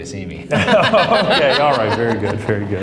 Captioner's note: laugh